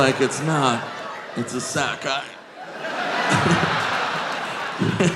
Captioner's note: audience laughing; all laughing